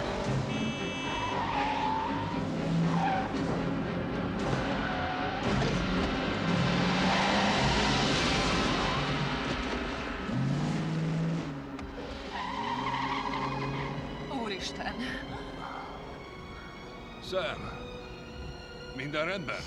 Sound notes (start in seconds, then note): 3.6 horn honking; 3.6 tires screeching